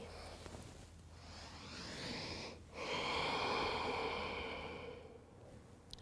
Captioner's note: breathing